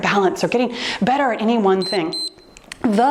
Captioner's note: timer beeps